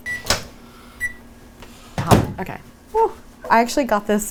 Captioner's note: microwave beeps